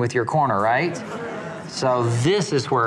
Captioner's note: assenting murmurs